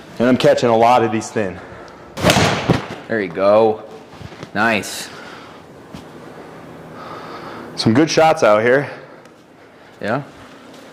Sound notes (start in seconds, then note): 2.2 club thuds